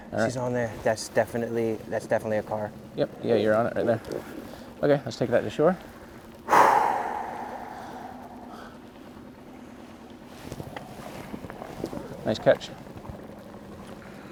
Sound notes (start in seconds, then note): 6.4 exhaling sharply